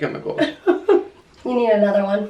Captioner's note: laughs